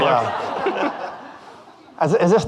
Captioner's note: audience laughing